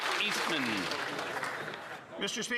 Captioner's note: some Applause